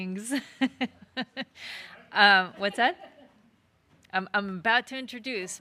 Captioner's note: laughs